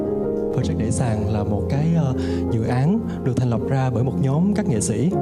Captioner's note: narrator speaks in Vietnamese